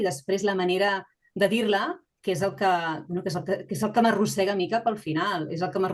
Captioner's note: continues speaking in Catalan